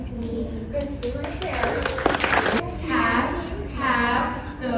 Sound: clapping

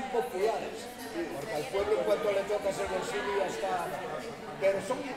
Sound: speaking Spanish

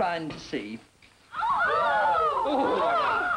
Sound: everyone exclaiming

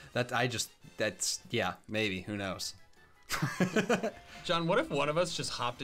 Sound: laughs

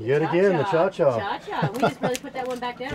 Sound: laughing

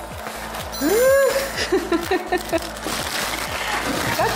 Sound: laughs

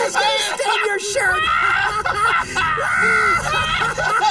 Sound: laughter

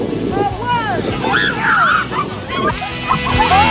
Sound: members scream

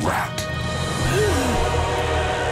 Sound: gasping

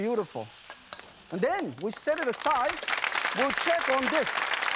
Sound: audience applause

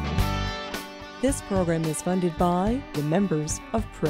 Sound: voiceover

